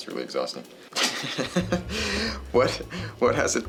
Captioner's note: laughs